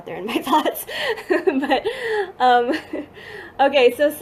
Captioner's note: laughing